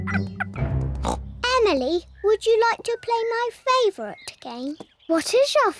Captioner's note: oinks